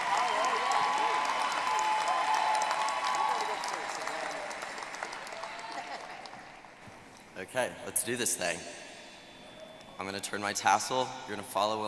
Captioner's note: applause